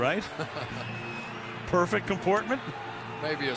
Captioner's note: laughs